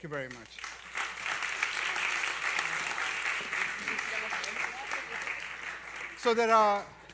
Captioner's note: applause